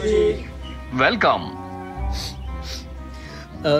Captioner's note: sniffs